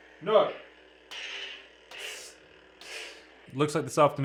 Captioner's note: electric whizzing